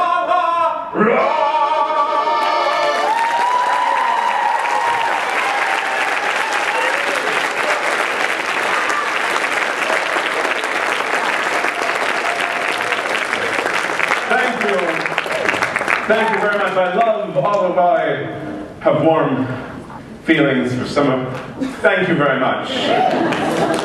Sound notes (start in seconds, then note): 9.6 applause